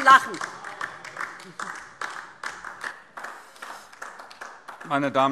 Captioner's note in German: Beifall DIE LINKE